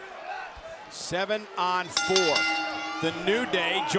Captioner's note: bell dings